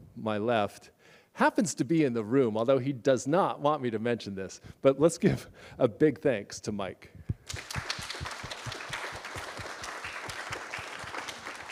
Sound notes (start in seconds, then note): 7.4 applause